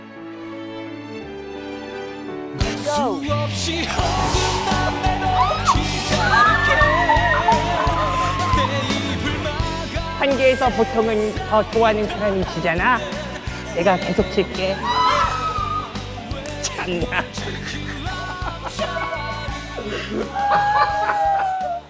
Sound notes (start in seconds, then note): 7.1 astonished